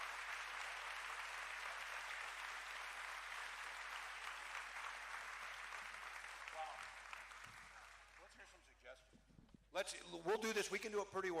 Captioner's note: cheering